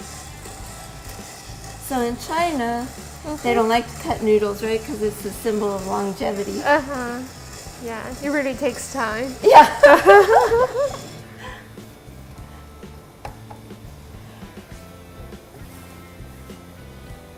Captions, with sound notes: So in China they don't like to cut noodles, right, 'cause it's a symbol of longevity. - Uh huh, yeah, it really takes time. (laughing)